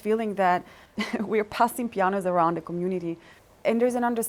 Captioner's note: chuckles